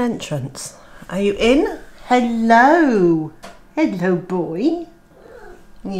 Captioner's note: miaow